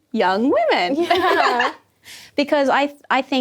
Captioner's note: laughing